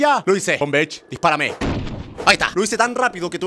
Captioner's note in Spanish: Sonido de disparo